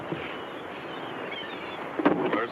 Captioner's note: seagulls caw